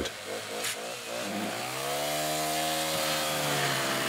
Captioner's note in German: Motordröhnen